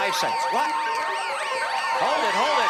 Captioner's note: beeping